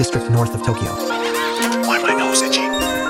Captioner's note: evil laughter